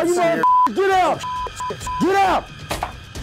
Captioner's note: beep; beep beep beep; gun fire